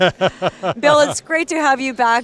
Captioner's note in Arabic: ضحك